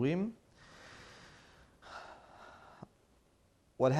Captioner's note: sighing